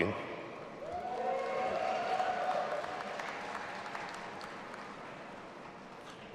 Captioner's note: audience applauding and cheering